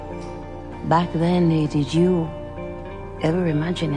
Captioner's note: voiceover